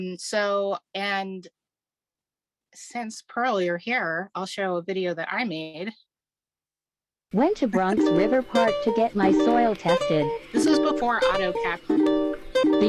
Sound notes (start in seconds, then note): 7.3 upbeat music; 8.6 automated Voice